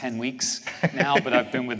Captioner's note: laughter